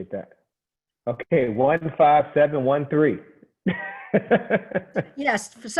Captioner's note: laughing